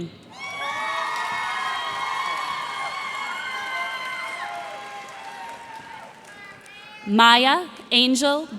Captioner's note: cheers and applause